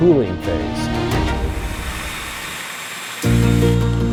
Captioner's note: machine buzzing; bright upbeat music